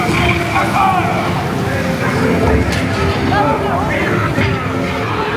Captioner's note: cannons blasting